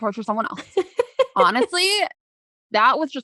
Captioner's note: laughing